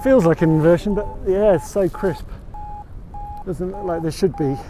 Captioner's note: Vario beeps